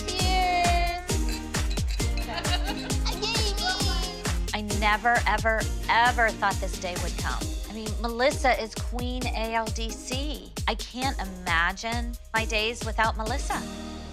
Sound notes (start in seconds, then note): 2.2 laughter